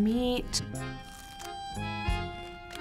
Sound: crunching

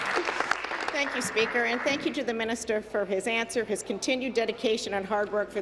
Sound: applause

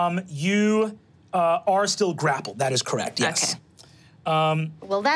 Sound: none

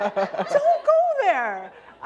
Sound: laughter

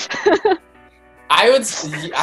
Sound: laughing

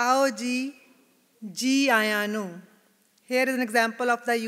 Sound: non-English phrase

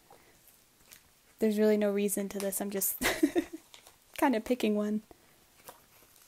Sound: laughs

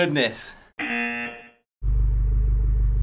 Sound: buzzer

